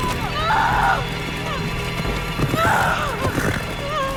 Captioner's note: wailing